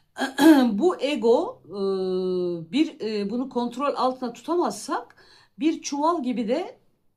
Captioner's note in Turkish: boğazını temizler